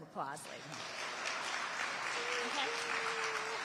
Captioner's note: audience applauding